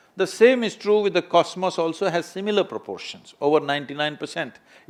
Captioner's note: none